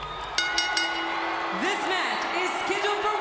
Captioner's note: bell rings